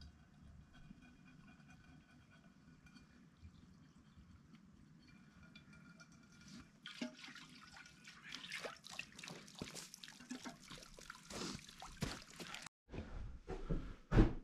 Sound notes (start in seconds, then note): 2.3 water running